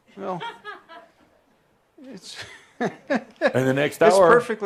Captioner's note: he chuckles